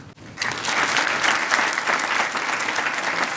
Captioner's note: applause